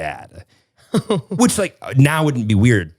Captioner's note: giggles